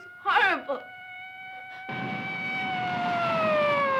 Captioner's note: sirens wailing